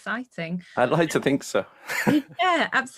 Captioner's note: chuckles